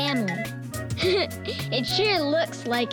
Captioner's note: giggling